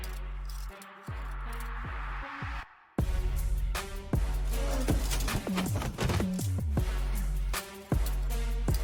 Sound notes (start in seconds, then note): 4.2 snarles